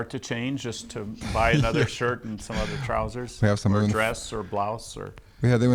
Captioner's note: laughs